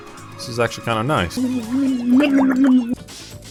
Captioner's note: drowning violently